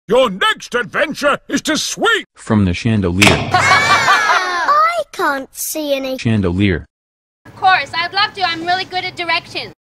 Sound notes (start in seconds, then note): 3.5 laughter